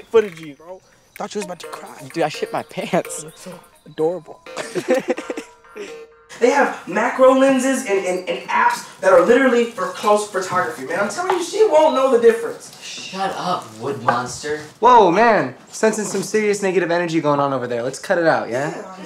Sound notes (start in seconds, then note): 4.4 laughs